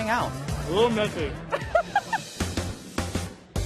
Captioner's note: laughs